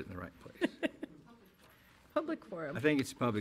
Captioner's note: chuckling